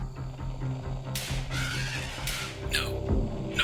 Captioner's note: static buzzing; gunshots fired and elephant roaring